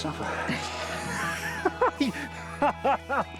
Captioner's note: laughs